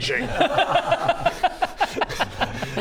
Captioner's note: cheeky laugh